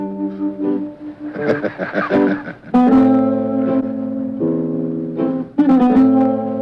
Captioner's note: mellow music; laughing